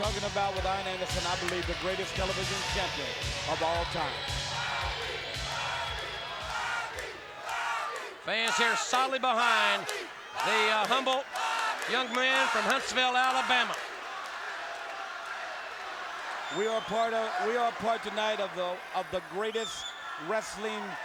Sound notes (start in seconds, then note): 5.8 crowd cheering